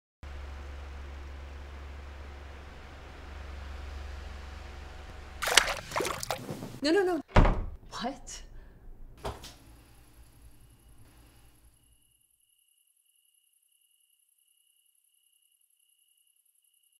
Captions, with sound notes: (fan buzzing) (water splashing) (bed sheet ruffling) - "No, no, no!" (door slam) "What?" (crickets chirpping)